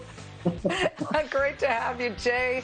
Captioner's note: laughter